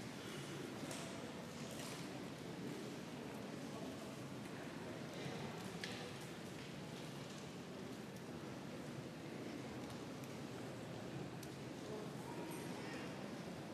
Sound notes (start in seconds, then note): 2.9 crowd noise